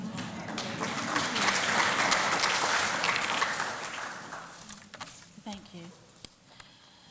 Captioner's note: applause